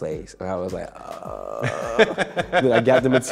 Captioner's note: laughing